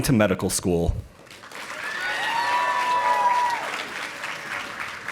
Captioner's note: audience applauding